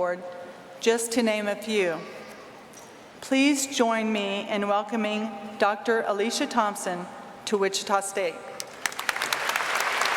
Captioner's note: applause